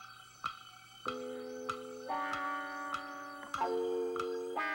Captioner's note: clock ticking